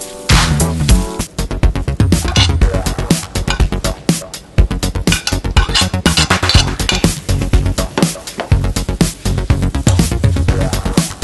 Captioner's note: stirfry mushrooms, sizzling sound in the background